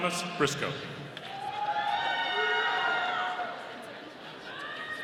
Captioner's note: audience cheering